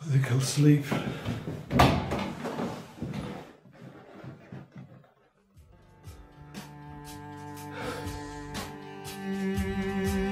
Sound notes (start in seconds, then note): 1.0 chair creaking